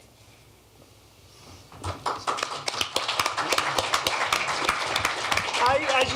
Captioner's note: applause